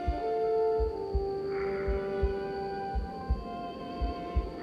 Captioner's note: breathes deeply